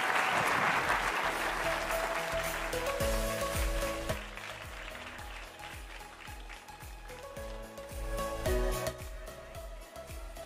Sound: applause

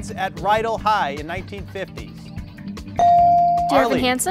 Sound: bell dings

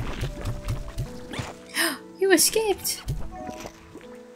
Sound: gasp

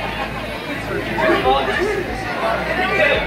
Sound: laughter

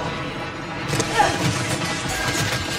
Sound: groans

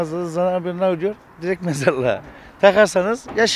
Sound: laughs

